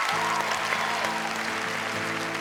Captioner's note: cheering and applause